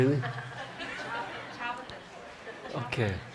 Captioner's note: group chatter